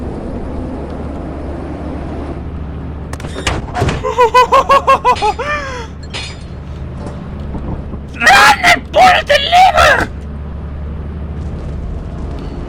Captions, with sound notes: [Panic relief laughter] RUN AND PULL THE LEVER!